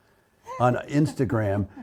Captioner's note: laughs